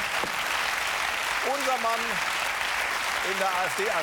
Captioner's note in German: Applaus